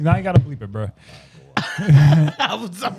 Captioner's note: laughing